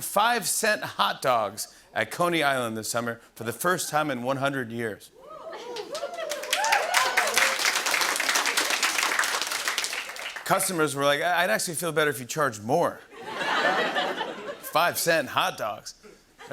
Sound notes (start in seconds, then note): 5.2 cheers and applause; 8.3 applause; 13.2 laughter